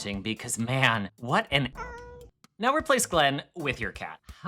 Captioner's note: cute meow